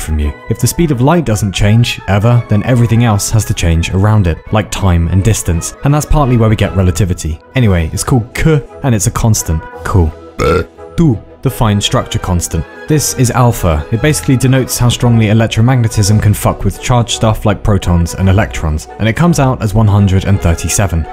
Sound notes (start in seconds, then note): 10.3 burp